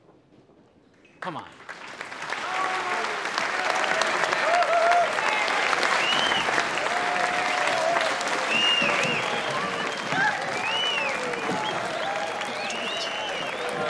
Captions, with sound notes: Come on! (ALL CHEERING) Don't do it!